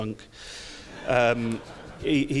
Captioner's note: audience laughs